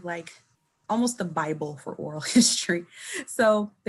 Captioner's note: chuckling